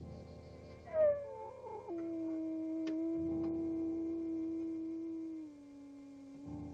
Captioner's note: light dramatic music; wolf howling